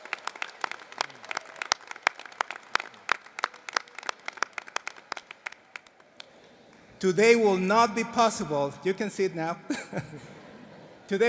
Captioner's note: applause